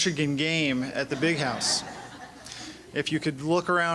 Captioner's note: laughing